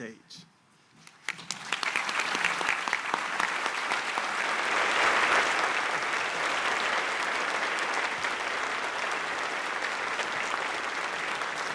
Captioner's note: applause